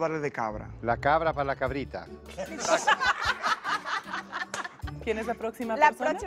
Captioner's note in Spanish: Risas